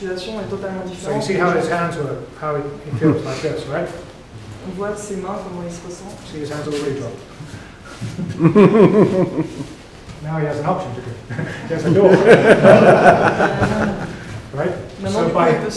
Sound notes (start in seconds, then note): 11.3 laughter